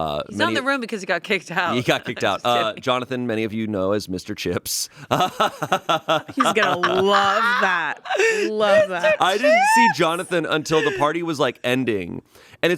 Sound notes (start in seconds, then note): 5.2 laughs